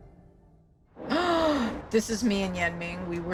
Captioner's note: gasps